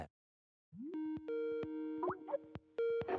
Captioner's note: call ringing